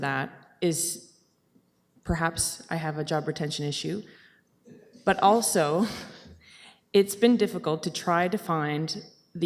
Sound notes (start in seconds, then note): 6.3 chuckles